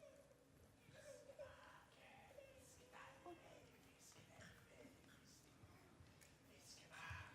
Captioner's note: whispering